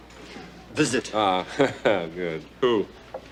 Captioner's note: chuckles